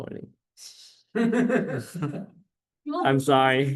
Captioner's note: laughter